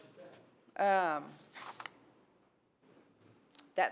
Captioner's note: paper rustling